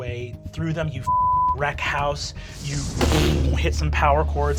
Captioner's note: beep